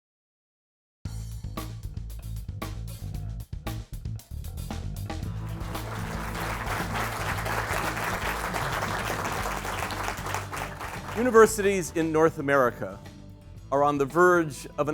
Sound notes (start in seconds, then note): 5.3 applause; 11.4 background Music